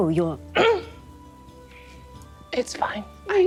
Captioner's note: throat clearing